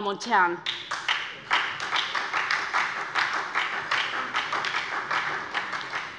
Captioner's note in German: Beifall bei der SPD